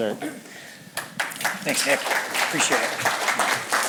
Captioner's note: applause